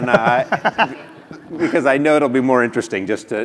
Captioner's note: laugh